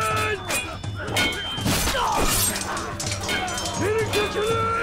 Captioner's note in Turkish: Çarpışma sesleri